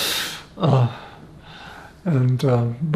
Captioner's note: laughing